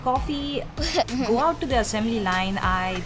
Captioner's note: laughs